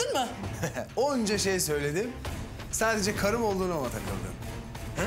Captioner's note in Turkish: Gülüyor